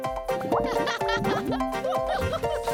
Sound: laughing

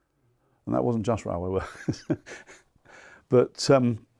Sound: laughs

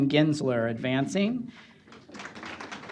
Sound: applause

